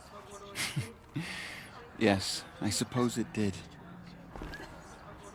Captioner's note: laughs